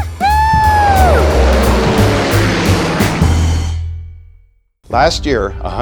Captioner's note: plane engine roaring